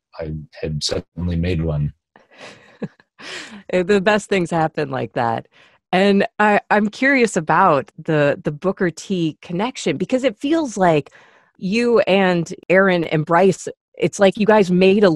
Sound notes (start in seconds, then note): 2.4 laughs